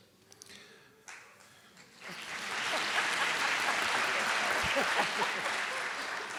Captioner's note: audience applauding; laughing